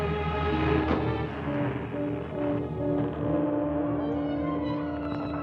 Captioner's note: door creaking